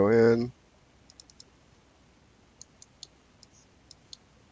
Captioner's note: mouse clicking